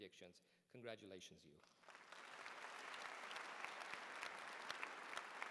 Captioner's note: applause